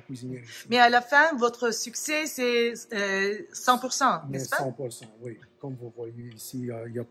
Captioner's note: speaks French